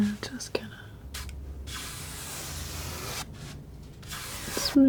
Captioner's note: scratching